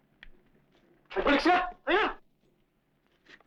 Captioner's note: non-english speech